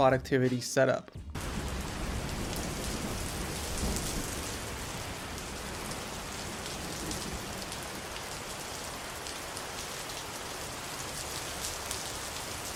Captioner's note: tropical rain